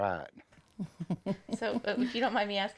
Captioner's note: chuckles